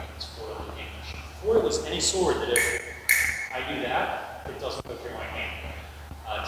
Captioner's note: click click